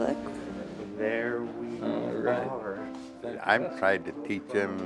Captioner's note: chattering